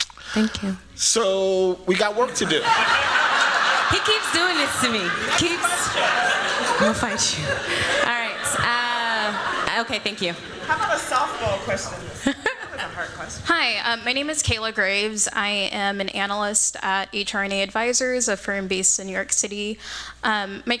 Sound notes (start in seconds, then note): 2.7 laughter